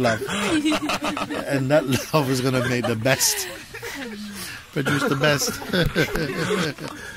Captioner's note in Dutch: gelach